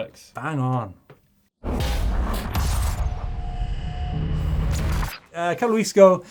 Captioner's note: electronic metallic zapping